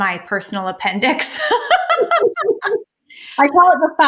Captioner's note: laughter